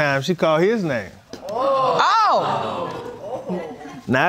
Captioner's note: everyone exclaims